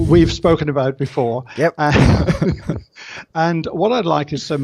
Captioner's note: laughs